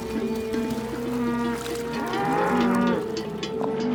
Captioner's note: cattle mooing